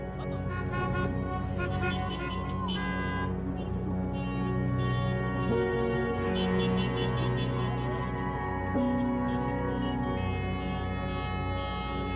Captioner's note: car horns honking